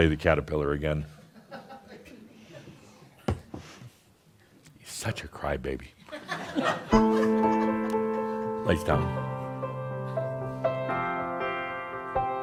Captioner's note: more chuckles; some chuckles